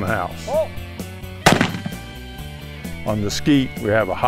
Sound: gun fires

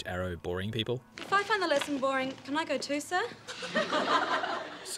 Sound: laughter

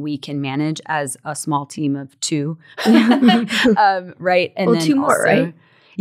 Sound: laughs

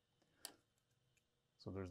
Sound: click

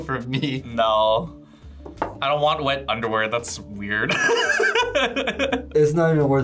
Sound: laughs; laughs

